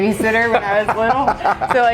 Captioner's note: laughs happily